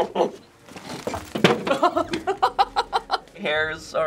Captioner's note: monkey-like grunting; head bangs mirror; laughing